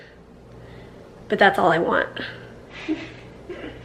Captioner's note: laughs